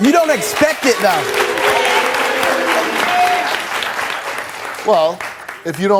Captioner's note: audience clapping